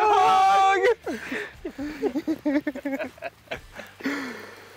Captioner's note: everyone laughs